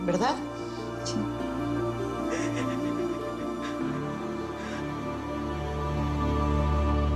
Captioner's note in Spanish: Sollozos